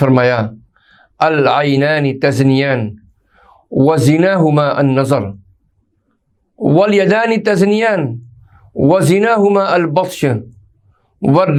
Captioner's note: hadeeth in Arabic